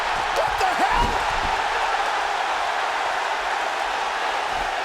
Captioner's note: audience cheering